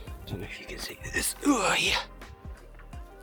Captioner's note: old man noises